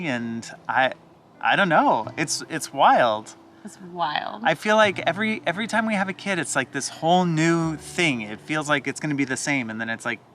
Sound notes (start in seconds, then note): none